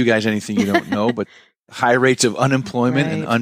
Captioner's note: laughs